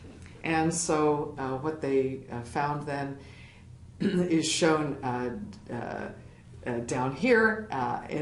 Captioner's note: cough